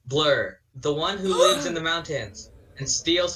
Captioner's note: crowd gasps